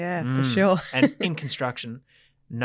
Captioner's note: laughs